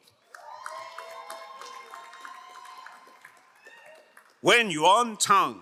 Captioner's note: crowd cheering and applauding